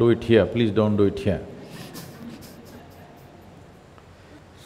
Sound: laughs

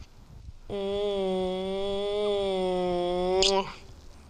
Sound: loud kissing; loud smack

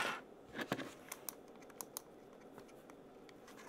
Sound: mouse clicking

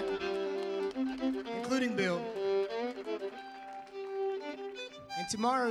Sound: audience applauds

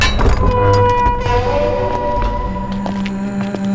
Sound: gate creaks

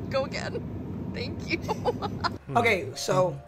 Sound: laughs

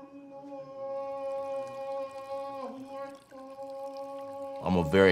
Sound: imam praying in foreign language; water sloshing

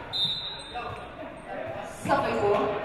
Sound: referee blows whistle

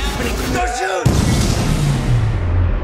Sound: gunfire

